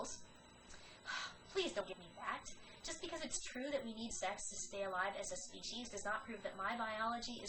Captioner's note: sigh